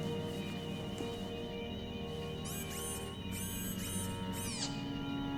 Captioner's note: bionic whirring